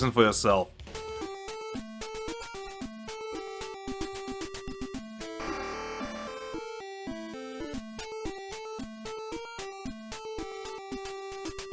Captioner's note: annoying 8-bit beeps